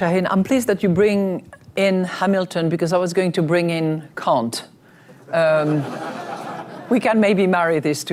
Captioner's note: laughter